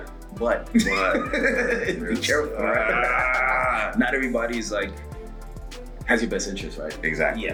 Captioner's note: laugh